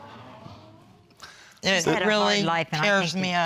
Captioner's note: audience exclaiming